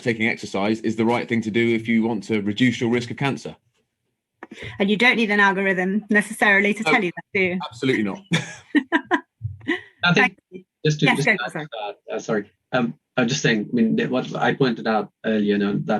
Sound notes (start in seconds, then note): 7.6 chuckles; 10.8 murmurs